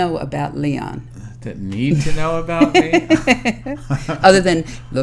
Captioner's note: laughter